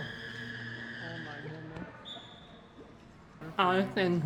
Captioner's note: whistle blowing